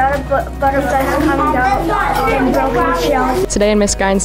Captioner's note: children speaking